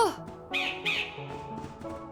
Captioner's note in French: croassements d'oiseau